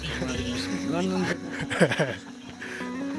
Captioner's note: laughs